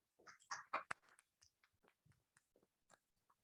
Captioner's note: applauding